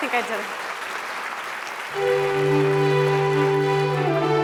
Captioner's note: applause